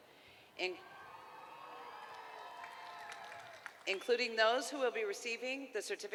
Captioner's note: applause